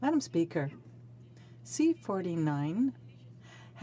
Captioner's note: speaking French